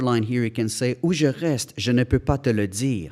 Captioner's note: speaking in foreign language